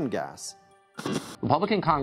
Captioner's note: static buzzing